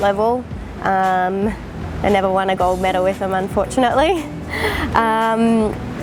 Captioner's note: laughs